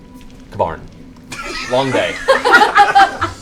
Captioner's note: laughter